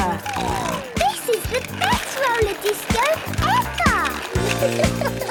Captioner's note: snorting